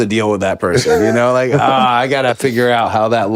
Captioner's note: Finn laughs